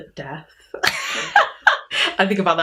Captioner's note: laughs